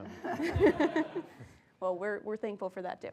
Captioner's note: laugh